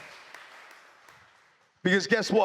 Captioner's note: cheers